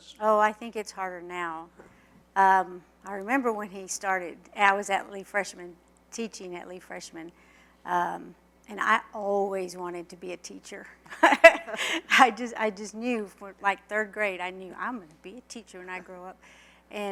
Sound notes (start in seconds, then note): 11.1 laughter